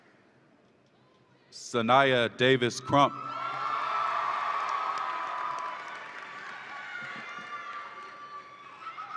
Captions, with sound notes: Soniah Davis-Crump. (audience applauds and cheers)